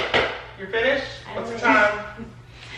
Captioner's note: laughs